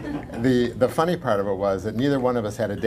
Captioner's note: laughter